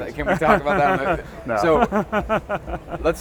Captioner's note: laughs